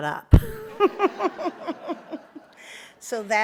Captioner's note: all laugh